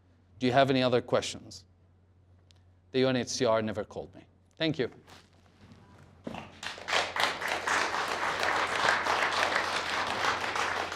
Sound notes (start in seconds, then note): 6.5 applause